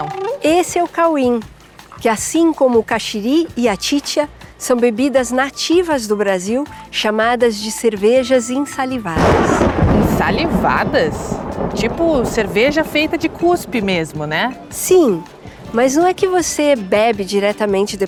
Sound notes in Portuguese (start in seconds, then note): 9.1 trovão ressoa